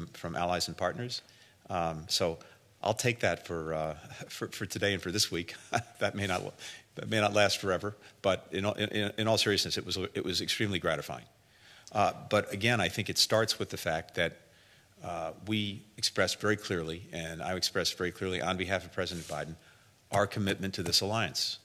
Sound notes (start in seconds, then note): 5.6 laughter